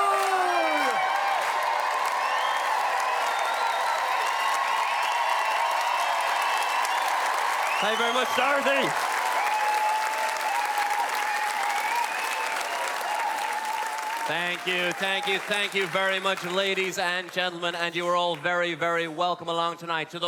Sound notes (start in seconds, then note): 1.7 loud cheers, whoops and clappin; 7.6 loud Cheer; 8.9 loud cheers still